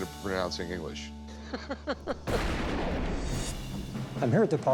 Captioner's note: laughter